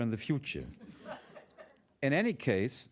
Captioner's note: laughter